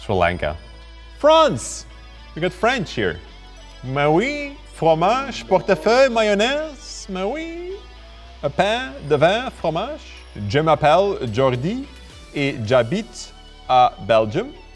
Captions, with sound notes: Sri Lanka. France. We got French here. [speaks French]